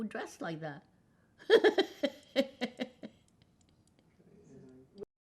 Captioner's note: laughing